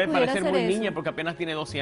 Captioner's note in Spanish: Hablan al unísono